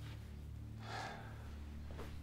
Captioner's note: breathing sound